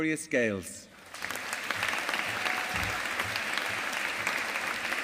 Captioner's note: audience applauding